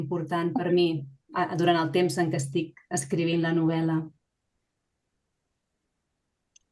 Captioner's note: continues speaking in Catalan